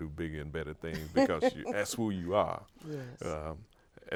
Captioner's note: laughs